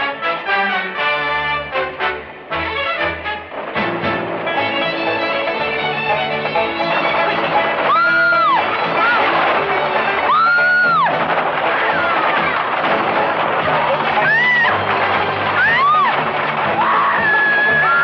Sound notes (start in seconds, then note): 7.8 screams; 12.7 hooves clattering